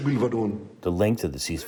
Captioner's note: through translator